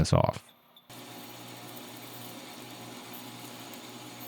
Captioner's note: lathe chattering